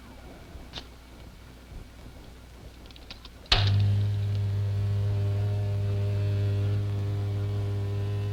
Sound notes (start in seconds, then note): 3.5 buzzing